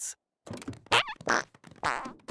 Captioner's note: fart